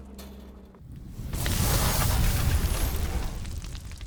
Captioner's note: flames erupt